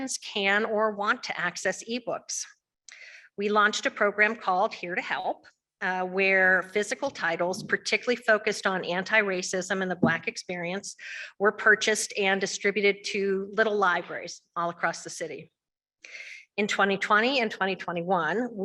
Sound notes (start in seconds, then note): none